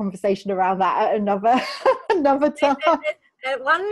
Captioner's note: laughs